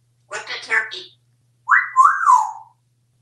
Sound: wolf whistle

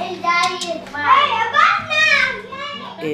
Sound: kids yelling

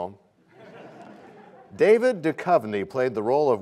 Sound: laughter

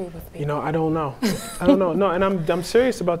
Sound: laughing

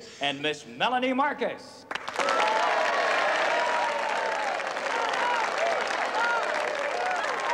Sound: applause

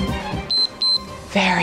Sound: timer beeps

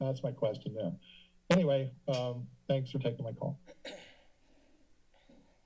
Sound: clearing throat; silence

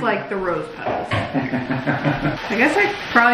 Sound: laughing

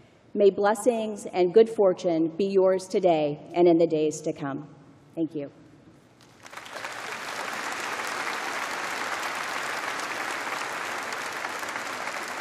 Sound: applause

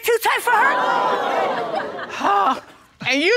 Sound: audience exclaiming

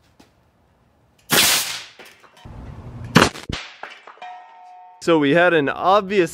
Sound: shoots air cannon

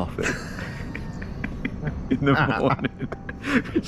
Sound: both laugh

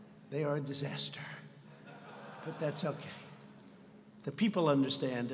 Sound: laughter

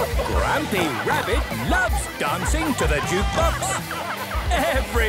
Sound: shouting

